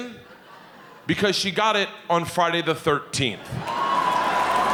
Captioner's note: audience laughing